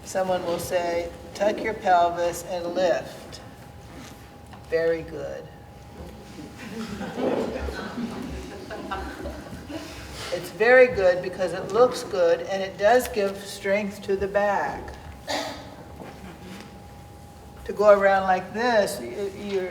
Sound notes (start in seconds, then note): 6.1 people laughing; 15.2 person coughing